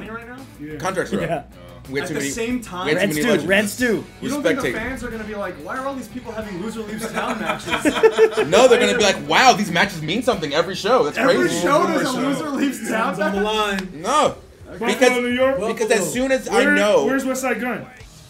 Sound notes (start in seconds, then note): 6.9 laugh